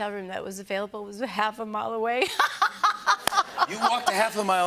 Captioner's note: laughter